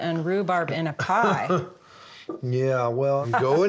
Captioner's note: laughs